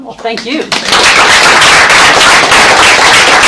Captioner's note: applause